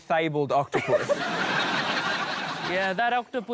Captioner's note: laughter